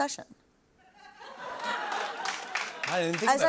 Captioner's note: laughter